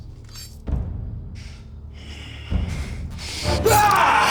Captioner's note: knife clinking; Brown yelling